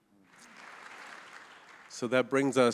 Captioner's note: audience applauding